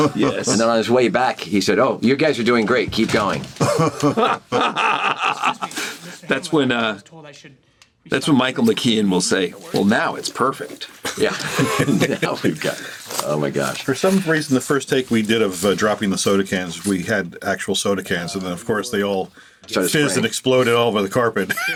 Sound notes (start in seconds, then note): 3.6 laughs